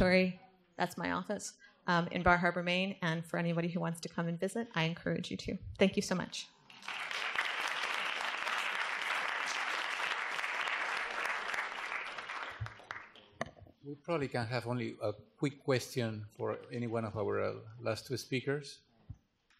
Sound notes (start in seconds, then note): 6.6 applause